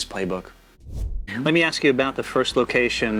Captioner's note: air whooshing